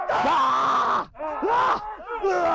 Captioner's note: yells; stunt men yelling